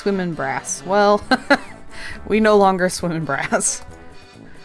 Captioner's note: laughs